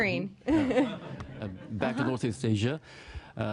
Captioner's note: laughter